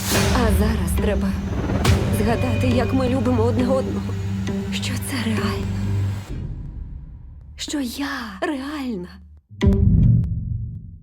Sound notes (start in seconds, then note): 6.1 music fades; 7.4 whispering